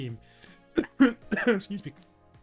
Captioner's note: coughs